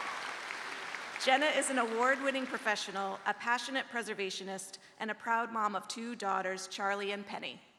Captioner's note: cheers and applause